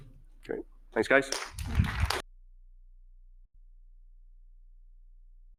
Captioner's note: audience applauding